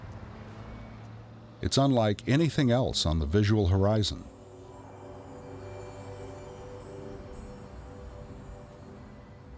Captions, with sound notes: It's unlike anything else on the visual horizon. (bells chiming)